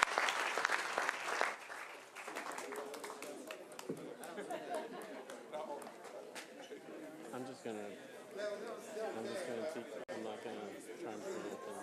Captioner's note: applause